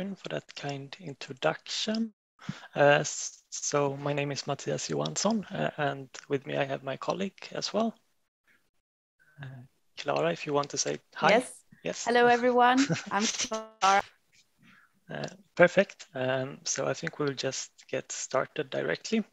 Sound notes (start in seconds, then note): 12.7 are lauging